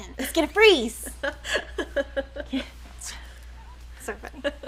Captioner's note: laughs